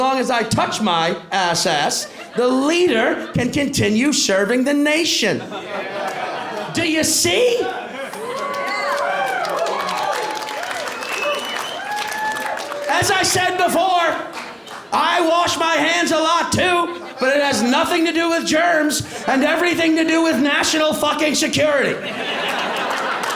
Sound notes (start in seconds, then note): 8.0 cheers and applause; 21.9 laughter